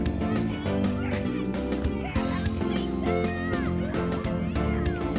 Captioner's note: children shouting